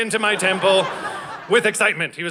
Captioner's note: audience laughing